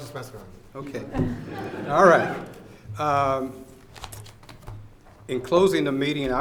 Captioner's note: audience laughs